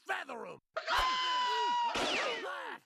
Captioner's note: screaming